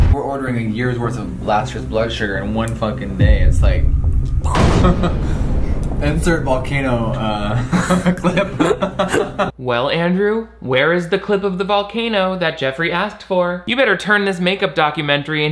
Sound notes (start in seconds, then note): 3.2 explosion; 4.5 Jeffree chuckles; 7.4 chuckle